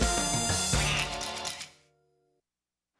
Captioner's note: quacks